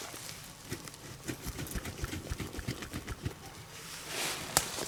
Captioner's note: object rattles